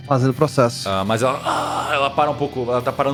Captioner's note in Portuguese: Grunhidos